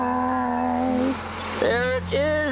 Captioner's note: bus brakes squeaking